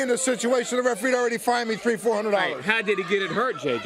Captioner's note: crowd chatter